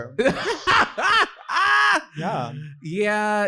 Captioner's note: laughing